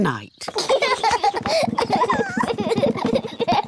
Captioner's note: children laugh